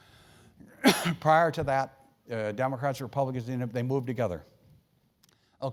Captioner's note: cough